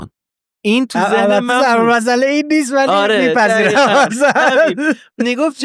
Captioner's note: laughing